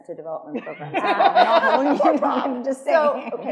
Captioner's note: attendees laughing